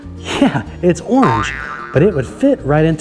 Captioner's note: spring boinging